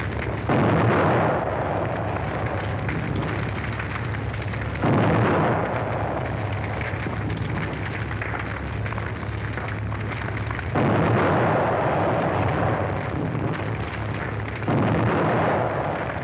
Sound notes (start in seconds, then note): 4.8 explosions